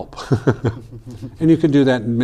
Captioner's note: laughing